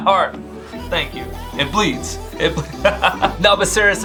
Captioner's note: laughs